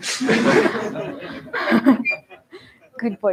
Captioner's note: laughter